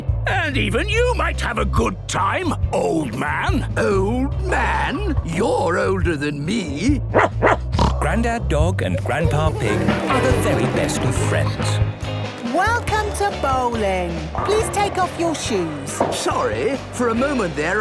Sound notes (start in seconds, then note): 7.1 barking, snorting